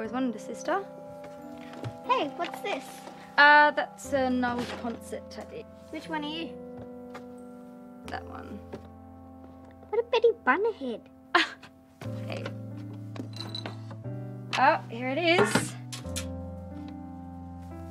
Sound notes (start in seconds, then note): 12.2 scoffs